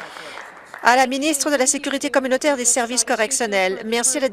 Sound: applause

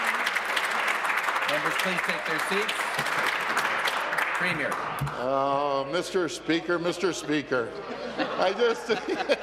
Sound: applause

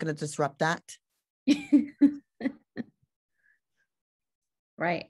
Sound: laughs

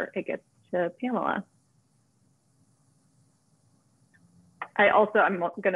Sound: silence

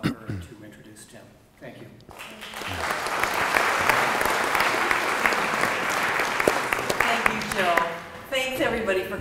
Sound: audience Applause

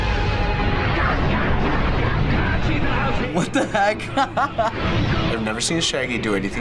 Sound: laughs

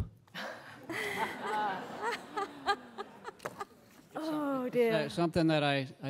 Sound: laughter

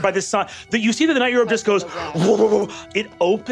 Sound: mimics eldritch thrumming

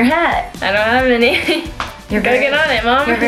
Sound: laughs

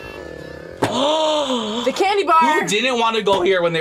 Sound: gasps

